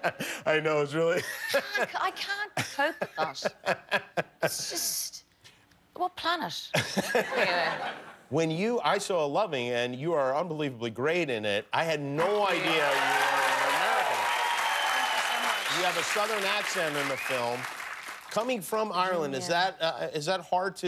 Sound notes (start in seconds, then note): 0.0 laughter; 6.7 laughter; 9.2 cheers and applause